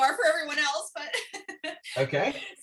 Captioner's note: laughter